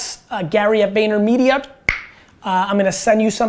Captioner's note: clicks tongue